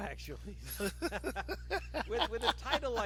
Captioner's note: both laughing